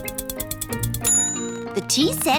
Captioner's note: bell dings